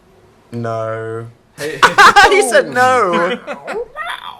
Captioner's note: laughs